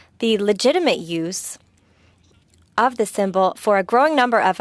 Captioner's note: speaking French